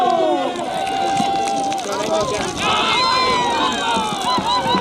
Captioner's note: applause